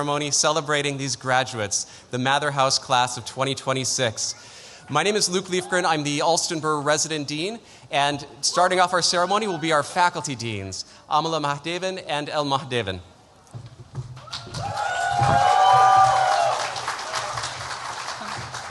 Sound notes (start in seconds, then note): 14.2 cheering